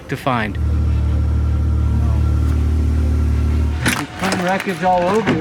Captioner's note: UTV engine roaring